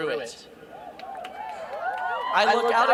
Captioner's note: cheering